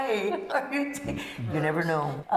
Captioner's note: laughter